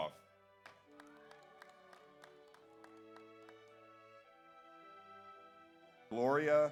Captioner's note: audience applauds; audience cheers